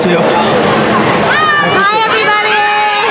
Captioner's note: crowd